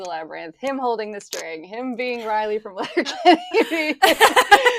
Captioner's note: laughs